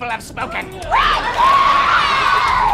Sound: shrieking

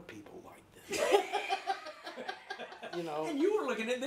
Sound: laughing

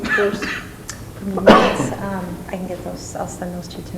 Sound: coughing

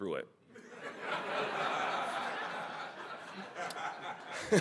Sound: audience laughing

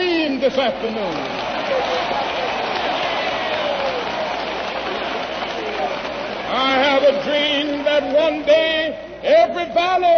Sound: applause

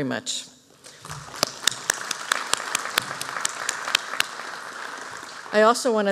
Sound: applause

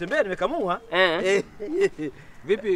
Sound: chuckles

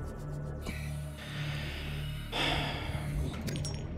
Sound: deep breath

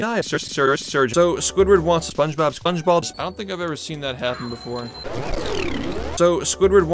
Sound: distorted burp

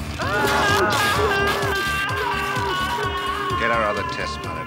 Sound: intense music; screams

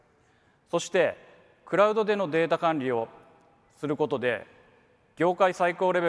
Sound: speaks in foreign language

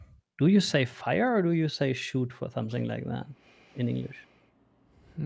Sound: none

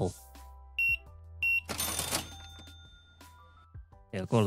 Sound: beeping

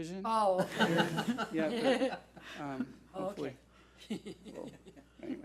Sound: board laughs

